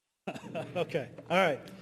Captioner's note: laughing